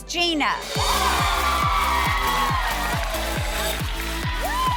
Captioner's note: ladies cheering